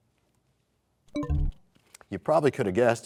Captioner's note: bell chimes, times expires